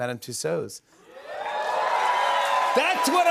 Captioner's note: cheers and applause